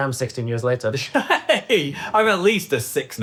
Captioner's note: laughs